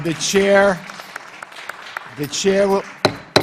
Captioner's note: clapping continues; tapping gavel